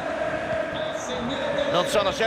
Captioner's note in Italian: Applauso